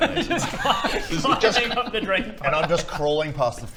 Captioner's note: laughs